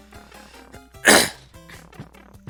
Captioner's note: clears throat